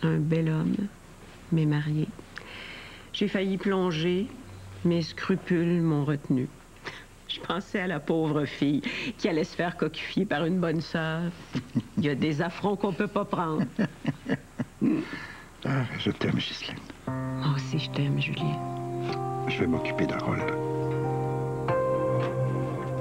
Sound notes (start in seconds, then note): 13.4 Rires